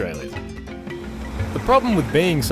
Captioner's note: wave noises